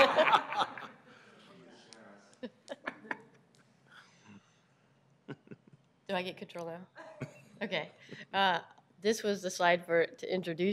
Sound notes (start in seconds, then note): 4.0 laughter